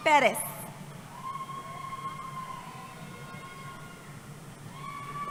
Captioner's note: cheering